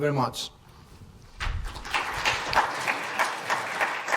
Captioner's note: applause